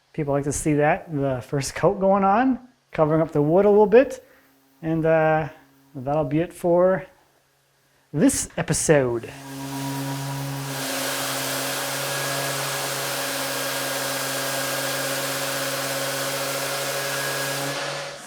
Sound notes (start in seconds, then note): 9.3 machine whirring